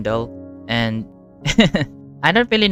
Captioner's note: giggles nervously